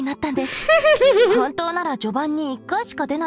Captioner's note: chuckles